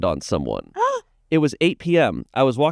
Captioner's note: gasps